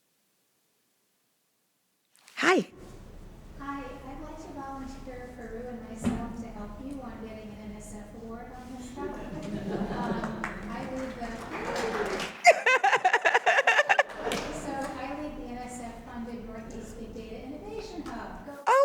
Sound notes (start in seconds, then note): 12.8 laughing